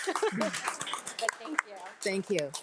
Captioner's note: board of trustees and attendees applauding